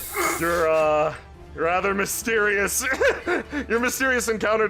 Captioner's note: cough